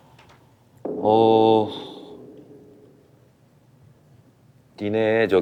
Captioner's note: A moment of silence